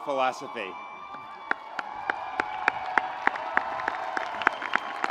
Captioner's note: audience applauds